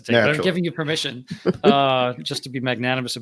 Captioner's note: laughing